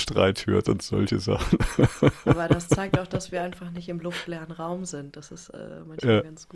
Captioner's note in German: gelächter